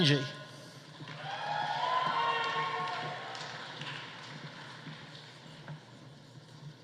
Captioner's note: audience applauding; audience cheering